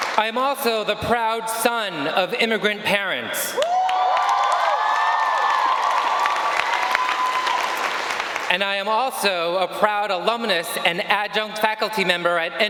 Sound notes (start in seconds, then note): 3.5 audience cheering